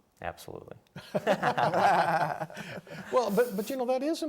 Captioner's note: laughing